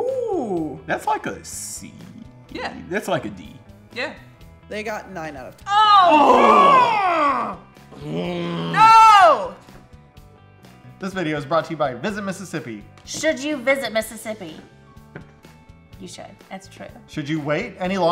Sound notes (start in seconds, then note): 5.6 both scream and groan